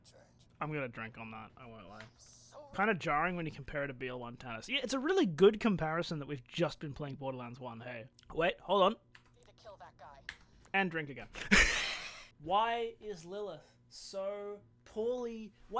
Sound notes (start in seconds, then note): 11.4 laughs